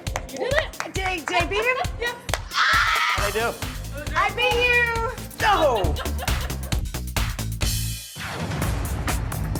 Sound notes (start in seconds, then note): 0.0 clapping; 2.7 cheering; 6.8 techno music